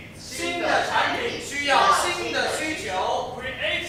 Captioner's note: Mandarin